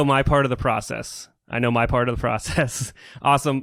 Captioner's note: laughs